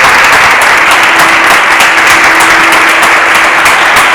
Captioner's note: applause